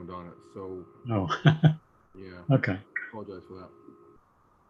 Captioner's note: laughing